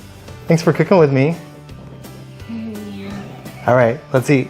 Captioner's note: giggles